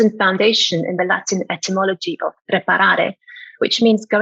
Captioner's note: speaking foreign language